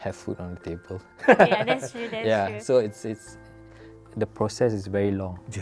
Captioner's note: laughs